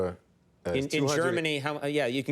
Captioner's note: none